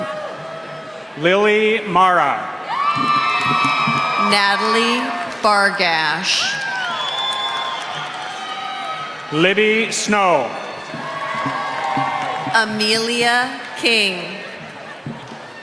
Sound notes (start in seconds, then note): 2.8 applause